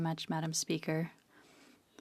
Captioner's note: speaking in French